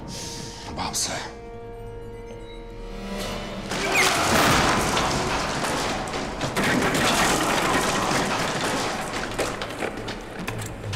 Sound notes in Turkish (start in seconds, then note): 3.7 Parçalanan fıçı sesleri; 3.8 Haykırma sesi